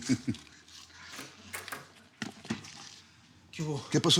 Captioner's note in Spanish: risas